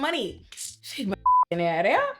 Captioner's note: beep